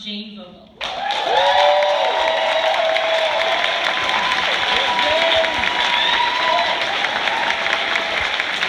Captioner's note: applause, cheers